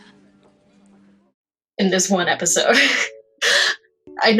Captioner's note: laughs